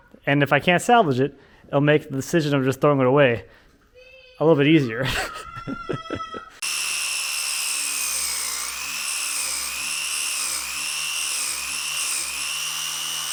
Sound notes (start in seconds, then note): 5.0 chuckles; 6.6 grinder whirs